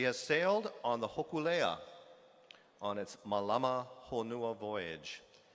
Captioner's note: speaking hawaiian